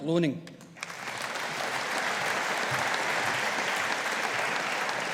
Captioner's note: audience applauding